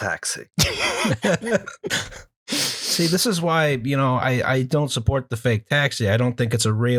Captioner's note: laughter